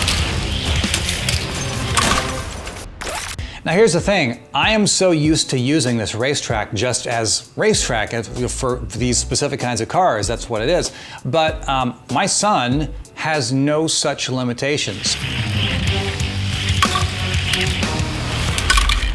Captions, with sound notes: (slams) Now, here's the thing. I am so used to using this racetrack just as racetrack for these specific kinds of cars. That's what it is. But my son has no such limitations. (rock music) (slams)